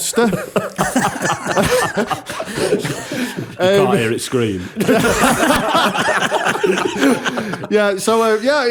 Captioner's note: laughter; laughter